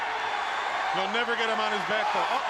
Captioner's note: crowd cheering